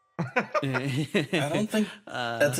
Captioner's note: Etete Laugh; laugh